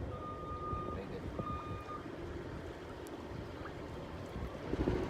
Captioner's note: beeping sounds